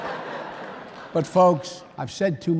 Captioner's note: laughter